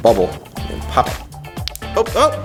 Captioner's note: pop